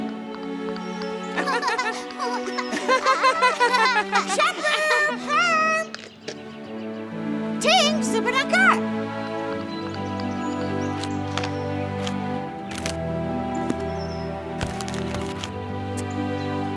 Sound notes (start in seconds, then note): 1.4 laughing; 4.3 yelling; 7.5 foreign language